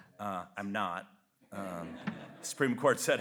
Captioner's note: audience laughs